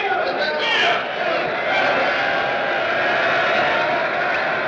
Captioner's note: crowd cheering and whistling